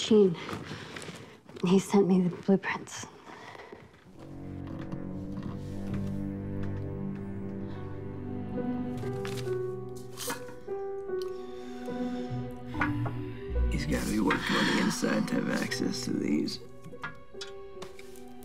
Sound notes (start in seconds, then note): 14.3 sighs